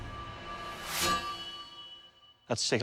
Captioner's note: sword tings